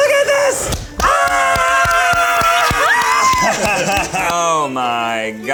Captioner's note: both screams and claps